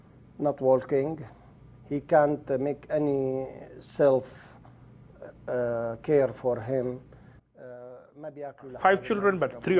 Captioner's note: speaking Arabic